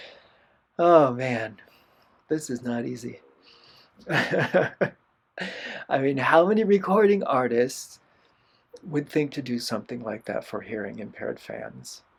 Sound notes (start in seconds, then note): 0.8 sigh; 4.0 laughter